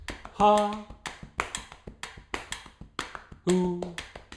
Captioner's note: tapping and ticking sound